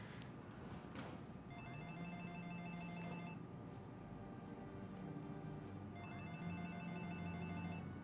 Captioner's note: phone rings